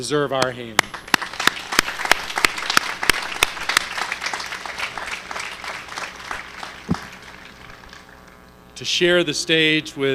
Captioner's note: applause